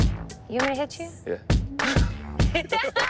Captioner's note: laughter